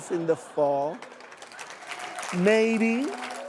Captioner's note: applause